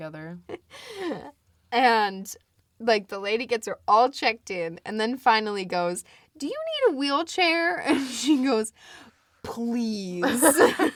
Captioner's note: both laugh